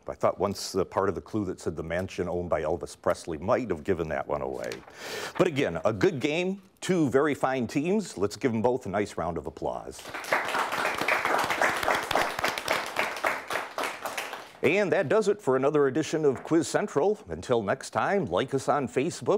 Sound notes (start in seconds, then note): 10.0 clapping